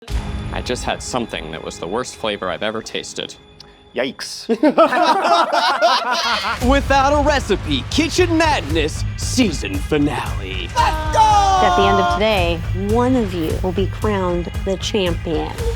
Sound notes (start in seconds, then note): 10.8 all laughing